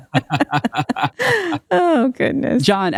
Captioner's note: both laughing